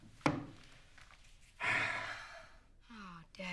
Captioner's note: sighs